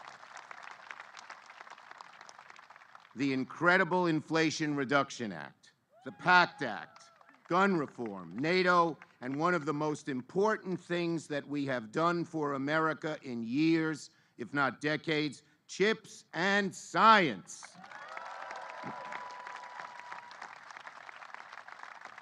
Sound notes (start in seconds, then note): 6.0 applause